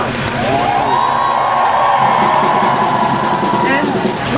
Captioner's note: crowd cheering